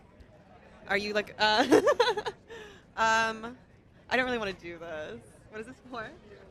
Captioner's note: laughs